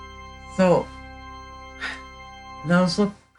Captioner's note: sighs